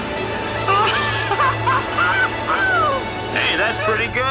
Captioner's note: laughing